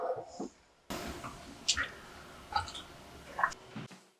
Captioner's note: sips coffee